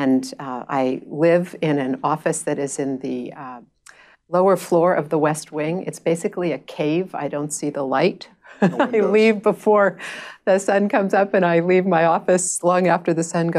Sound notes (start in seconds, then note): 8.6 laughing